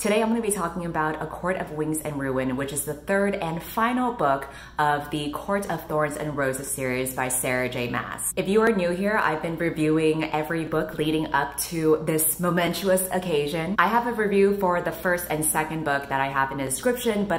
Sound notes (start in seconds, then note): none